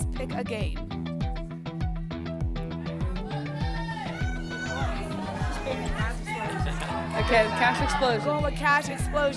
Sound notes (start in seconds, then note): 2.9 audience shouting games